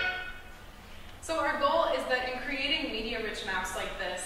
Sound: none

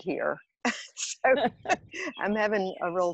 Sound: laughing

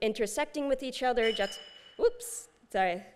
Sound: high-pitch sound

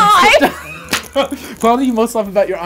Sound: laughter

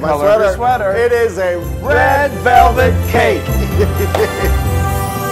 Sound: laugh

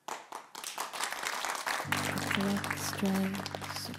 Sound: applause

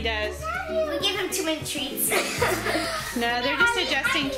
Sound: laughs

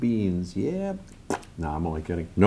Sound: spits

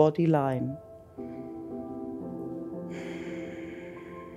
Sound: inhales; exhales

